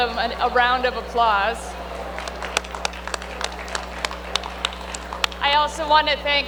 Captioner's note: applause